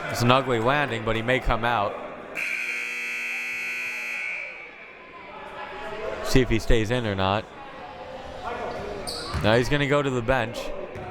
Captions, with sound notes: It was an ugly landing but he may come out. (buzzer) See if he stays in or not. No he's gonna go to the bench.